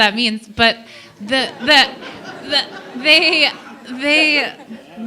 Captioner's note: laughter